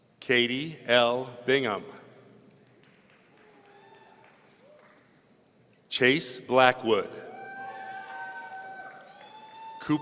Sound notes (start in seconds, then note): 2.7 audience applauds; 7.3 audience cheering